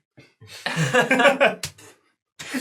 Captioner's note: all laugh